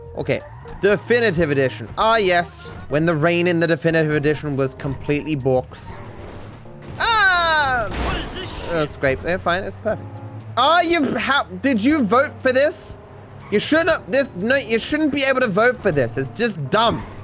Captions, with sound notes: Okay. Definitive edition. Ah, yes... When the rain in the definitive edition was completely borked. [Screams] A scrape... We’re fine, its perfect. Did you vote for this? You should not... You shouldn't be able to vote for this. It's just dumb.